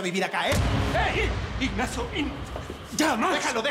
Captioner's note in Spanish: bofetada